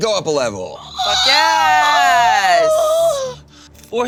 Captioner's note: moaning